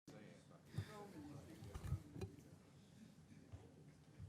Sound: audience conversing

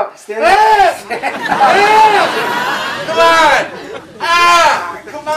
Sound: audience laughs; screams

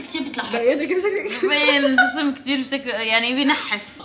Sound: laughing

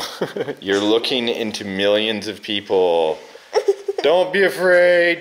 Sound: laughs

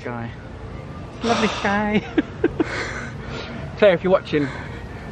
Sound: laughing

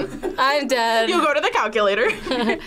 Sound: both laugh

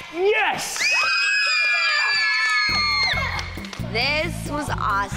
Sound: cheering

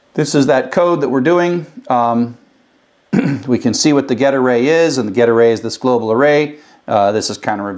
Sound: cough

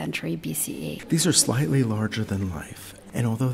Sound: voiceover

